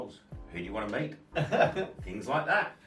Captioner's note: laughs